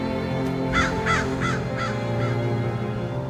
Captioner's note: crow calling